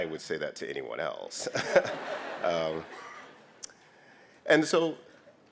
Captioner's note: laughter